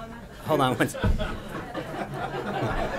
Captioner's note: laughter